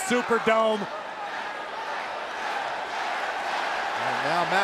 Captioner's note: crowd chanting